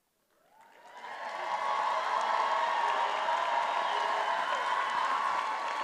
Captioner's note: attendees applauding and cheering